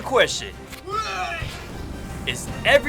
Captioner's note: retching